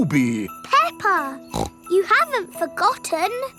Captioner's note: snorts